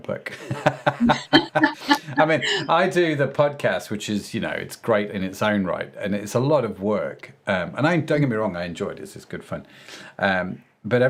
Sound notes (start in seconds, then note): 0.6 laughing